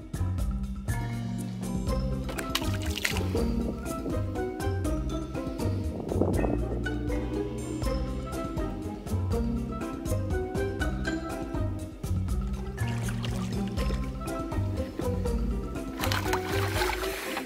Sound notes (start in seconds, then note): 2.2 splash; 2.6 curious music; 15.6 splashing; 16.6 curious music